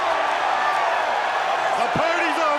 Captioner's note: crowd cheering